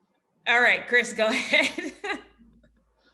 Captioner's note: laughs